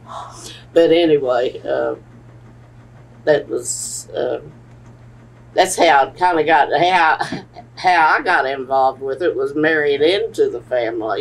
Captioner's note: laughs